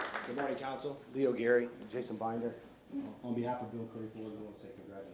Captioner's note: applause